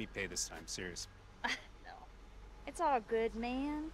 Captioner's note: chuckles